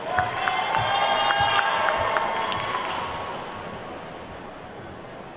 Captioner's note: attendees whooping and clapping